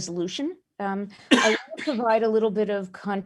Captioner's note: chair coughing